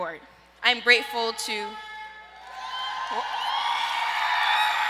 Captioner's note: audience cheers